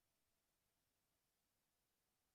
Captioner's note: none